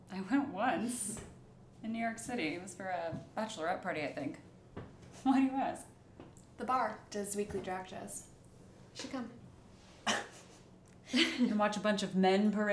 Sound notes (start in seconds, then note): 11.1 Harper laughs